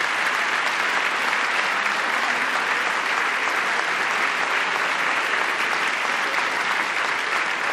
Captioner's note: applause